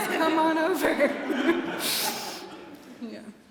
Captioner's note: laughter